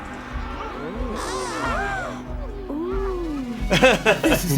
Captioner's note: gasps